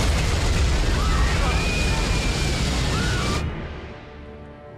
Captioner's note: screaming